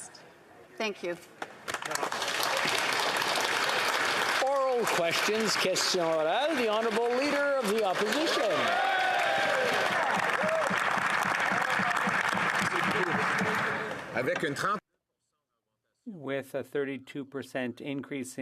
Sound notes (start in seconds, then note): 8.6 some Applause